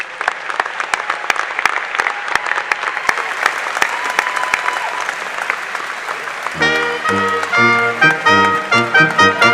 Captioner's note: applause